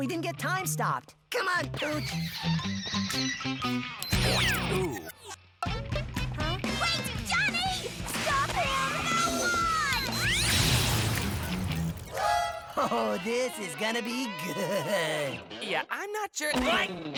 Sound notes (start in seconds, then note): 2.9 energy hums